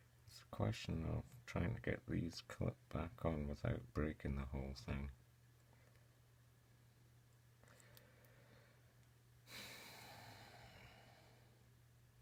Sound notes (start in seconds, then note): 9.5 sigh